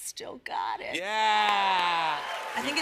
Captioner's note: cheers and applause